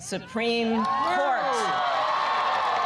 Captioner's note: applause